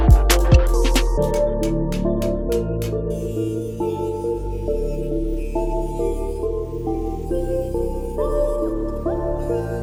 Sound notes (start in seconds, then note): 0.0 episode music; 0.5 hammer banging; 2.8 grinder buzzing; 3.3 episode music